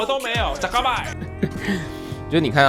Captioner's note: laughs